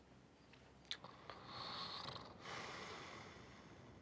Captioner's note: snoring